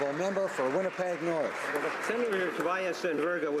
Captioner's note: some Applause